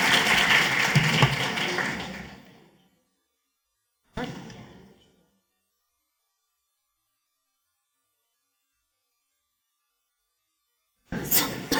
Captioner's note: applause